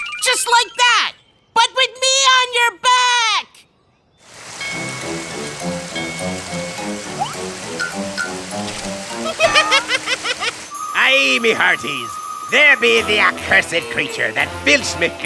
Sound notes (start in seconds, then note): 3.2 rushing water; 9.1 laughs; 9.8 pirate voice